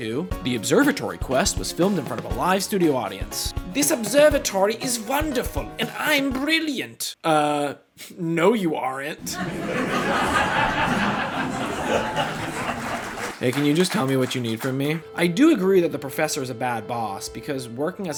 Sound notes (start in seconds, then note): 0.1 sitcom Music; 9.2 laughtrack; 11.9 audience still laughing for some reason